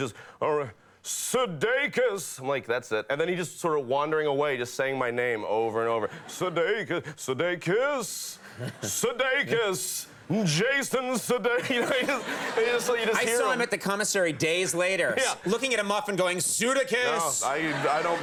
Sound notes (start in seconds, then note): 11.5 men laughs